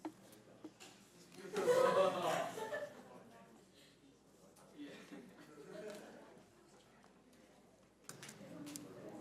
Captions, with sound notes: - I saw him go outside. (laughing)